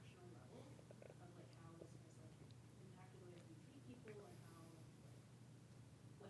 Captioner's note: participant speaking faintly